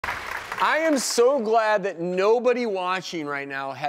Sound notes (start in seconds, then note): 0.0 applauding